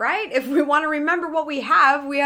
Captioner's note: chuckles